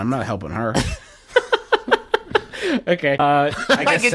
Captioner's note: laughs